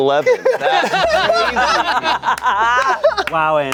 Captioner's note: everyone laughing